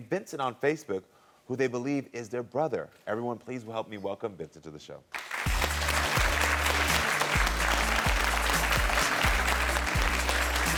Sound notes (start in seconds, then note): 5.1 audience clapping; 5.3 bright music